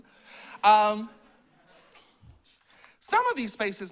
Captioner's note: laughter